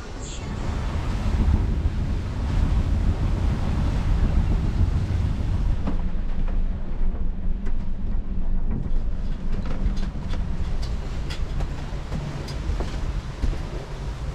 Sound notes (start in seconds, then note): 1.6 wind blowing; 6.9 sailboat creaking